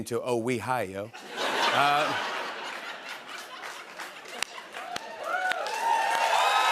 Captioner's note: laughter; cheers and applause